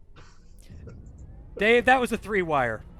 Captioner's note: laughter